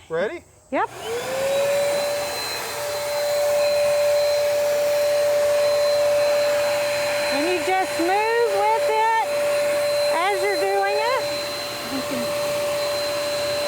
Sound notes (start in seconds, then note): 1.6 power tool humming